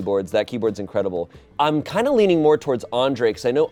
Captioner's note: none